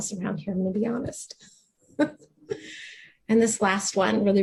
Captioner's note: laughs